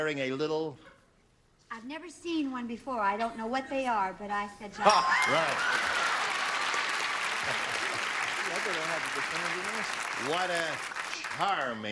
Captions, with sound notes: WHEN IT CAME OUT, IT WAS WEARING A LITTLE--" I'VE NEVER SEEN ONE BEFORE. I DON'T KNOW WHAT THEY ARE, BUT I SAID JOCK. RIGHT. [CLAPPING]